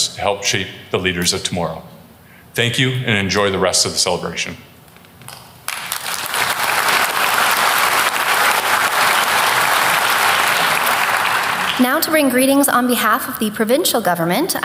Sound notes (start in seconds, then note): 5.6 applause